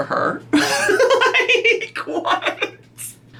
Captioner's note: laughs